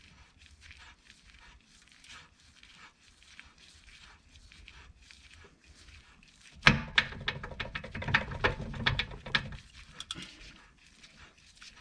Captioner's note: bolt rotating sound